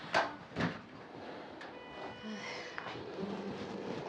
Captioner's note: door closing